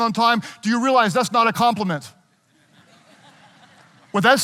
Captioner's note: audience laughing